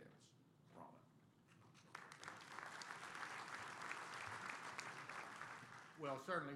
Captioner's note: applause